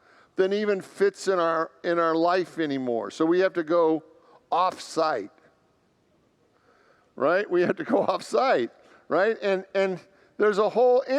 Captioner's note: laughs